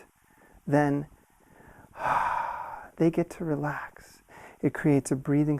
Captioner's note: exhales